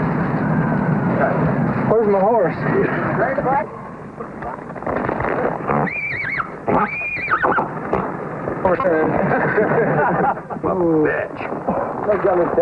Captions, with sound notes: - Okay, where's my horse? - Ready to bike? (horse neighing) - Horse. (crew laughs)